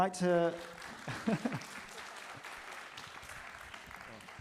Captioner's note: audience clapping